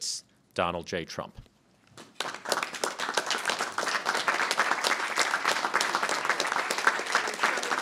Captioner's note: applause